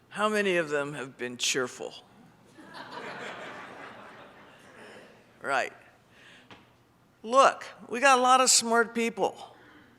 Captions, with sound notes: How many of them have been cheerful? (audience laughs) Right. Look, we got a lot of smart people.